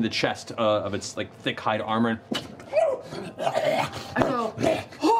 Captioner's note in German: Knurren